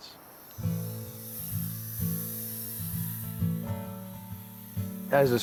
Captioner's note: saw whirs; gentle music